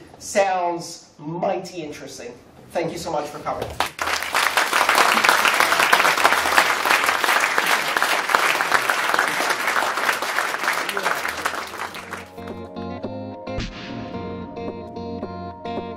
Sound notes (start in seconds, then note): 10.0 applause